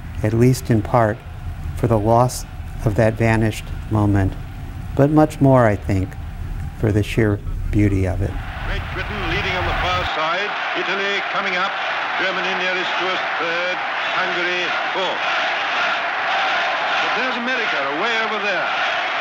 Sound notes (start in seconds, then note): 15.3 cheering